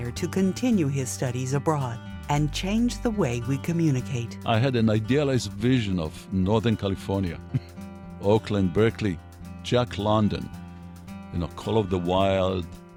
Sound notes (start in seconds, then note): 7.4 chuckles